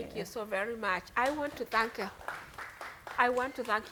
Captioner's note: audience members applauding